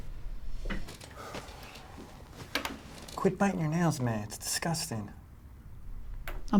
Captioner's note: sighs